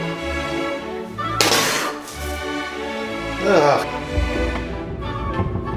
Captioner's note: groans